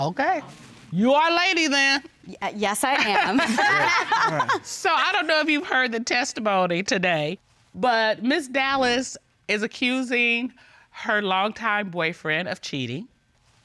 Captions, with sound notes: Okay. You're our lady then. -Yes, I am. -[all laugh] So, I don't know if you heard the testimony today. But Ms. Dallas is accusing her longtime boyfriend of cheating.